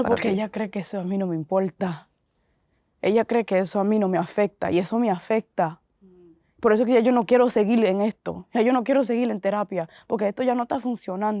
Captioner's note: Spanish